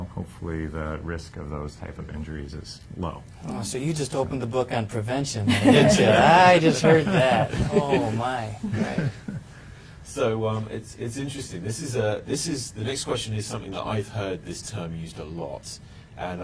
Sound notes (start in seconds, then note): 5.4 panel laughing